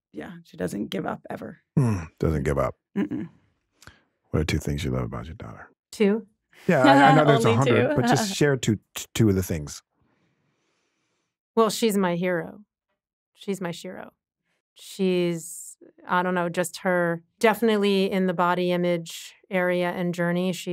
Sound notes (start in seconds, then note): 6.7 chuckles